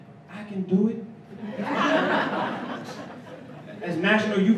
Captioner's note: laughter